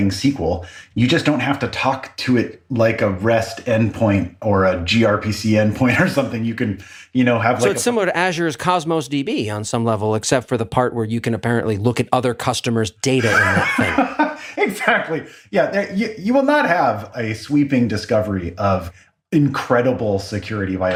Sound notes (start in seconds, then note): 13.2 laugh